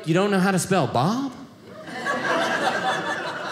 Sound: audience laughing

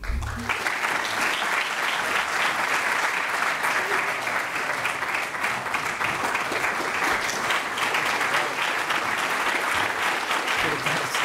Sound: applause

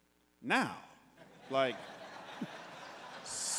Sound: congregants laughing

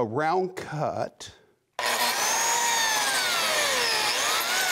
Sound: machine whirring

